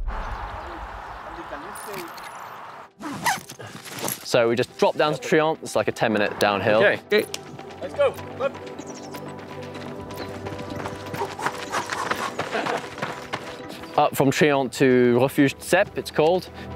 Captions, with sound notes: (zip wheezes) So we just dropped down to Trient. It's like a 10-minute downhill. - Okay. - Okay. Up from Trient to Refuge de Tseppes it's called.